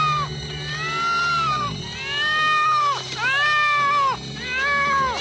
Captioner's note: kitten meowing constantly